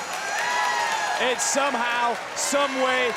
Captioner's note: crowd cheers